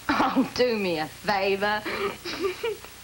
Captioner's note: jill laughs